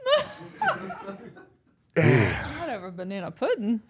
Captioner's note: all laugh